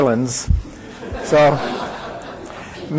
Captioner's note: audience laughing